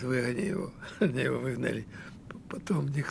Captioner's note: laughing